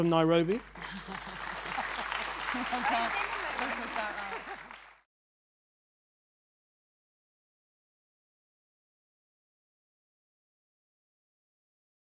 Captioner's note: applause